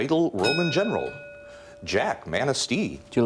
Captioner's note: ding